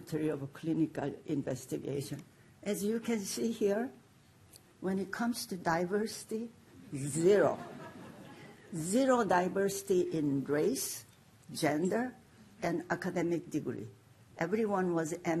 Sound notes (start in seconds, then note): 9.1 laughter